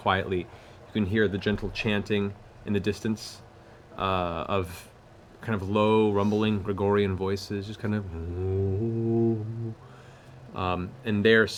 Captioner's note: chanting